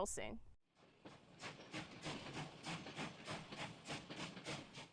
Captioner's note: train chugging